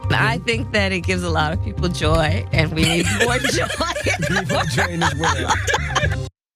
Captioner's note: laugh